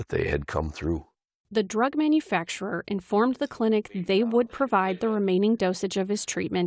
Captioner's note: voice-over